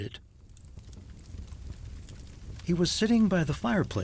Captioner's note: fire crackling